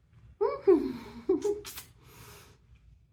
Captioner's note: giggling